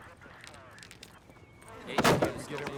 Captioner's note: diamonds rattling